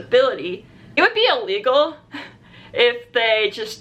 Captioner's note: laughs